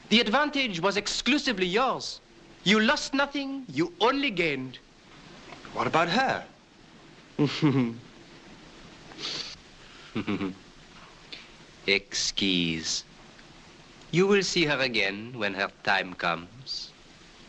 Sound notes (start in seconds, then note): 7.4 conductor 71 chuckles; 11.9 speaking french